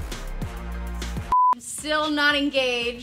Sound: upbeat music; beep

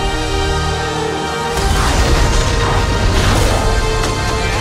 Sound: laser blast crashing on the ground

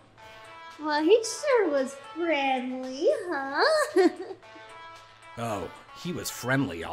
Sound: giggles

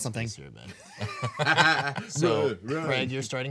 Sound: group laughing

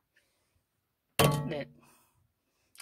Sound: clunk

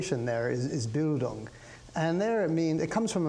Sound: speaks in foreign language

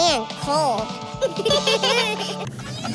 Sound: giggling

